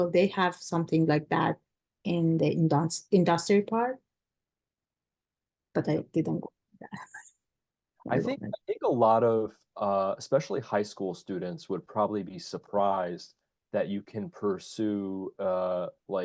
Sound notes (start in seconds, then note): 8.1 laughs